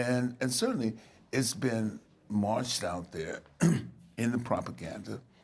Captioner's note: clears throat